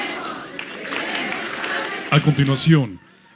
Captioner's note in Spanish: aplausos